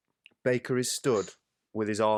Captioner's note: Baker scoffs